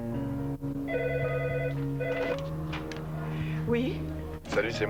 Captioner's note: Le téléphone sonne